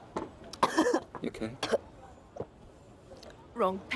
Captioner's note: coughing